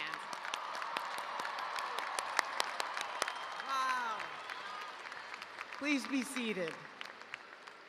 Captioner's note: cheers and applause